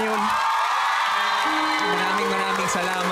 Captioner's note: applause, cheering